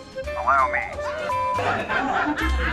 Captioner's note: laughing